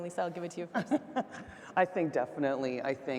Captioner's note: laughing